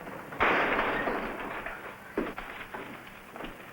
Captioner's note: door slamming